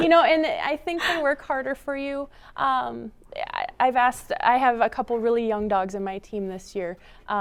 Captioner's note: laughter